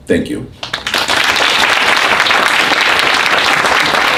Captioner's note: applause